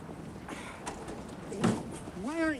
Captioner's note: car door thudding